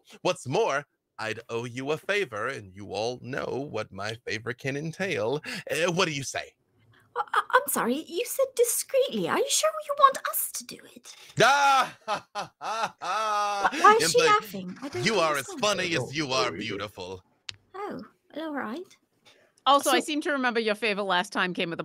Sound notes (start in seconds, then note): 11.4 laughing